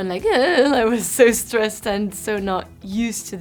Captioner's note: voice waving